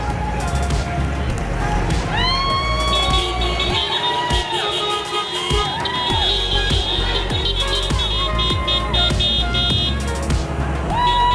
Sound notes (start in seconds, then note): 4.0 horns honking